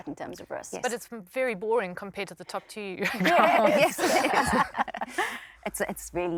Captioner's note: laughter